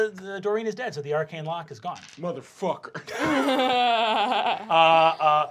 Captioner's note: laughing